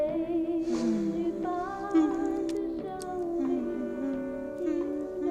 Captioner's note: continues humming along